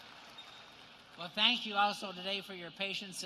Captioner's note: cheers and applause